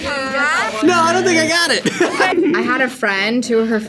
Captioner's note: buzzer